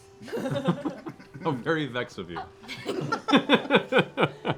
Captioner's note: laughs